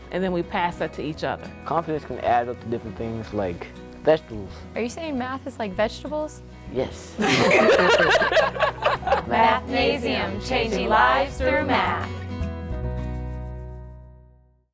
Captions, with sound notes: and then we pass that to each other. Confidence can add up to different things, like vegetables. Are you saying math is like vegetables? Yes. (laughter) Mathnasium. Changing Lives Through Math. (upbeat music)